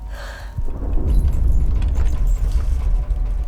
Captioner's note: ship booms; tense music